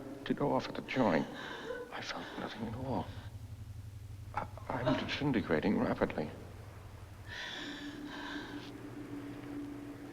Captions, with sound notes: I felt nothing at all. I... I've been disintegrating rapidly. (SHE SOBS)